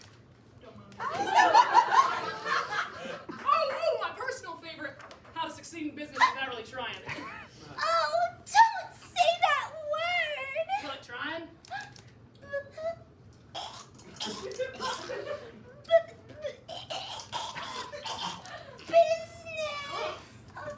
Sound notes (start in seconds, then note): 13.6 awful gagging sounds; 16.4 more gagging